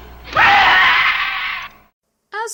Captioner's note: door whooshes; screams